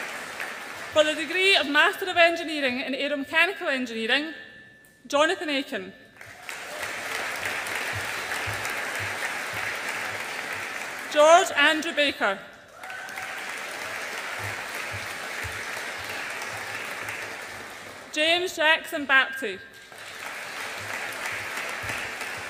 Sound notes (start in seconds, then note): 6.2 audience applauds; 12.6 audience applauds and cheers; 19.8 audience applauds